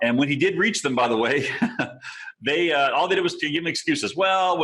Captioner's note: chuckling